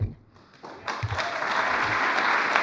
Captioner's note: applause